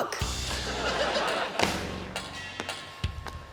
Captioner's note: exclaims; circles slapping on floor; audience tittering